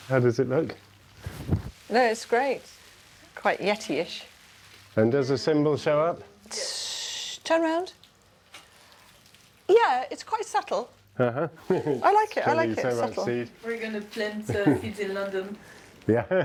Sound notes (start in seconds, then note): 11.2 chuckling; 16.0 laughing